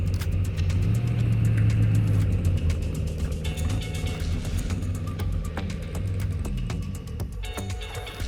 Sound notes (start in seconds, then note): 2.0 car engine revving; 5.6 upbeat music